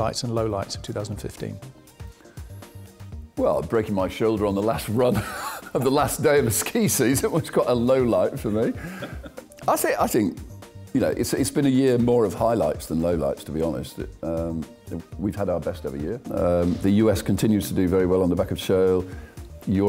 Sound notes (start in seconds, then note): 5.6 laughs